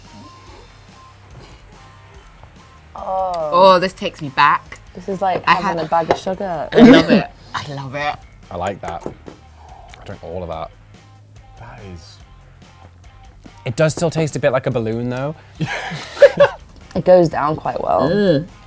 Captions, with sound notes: - Oh, this takes me back. - This is like having a bag of sugar. - I love it, I love it. - I like that. I'd drink all of that. - That is... - It does still taste a bit like a balloon, though. (laughs) - It goes down quite well.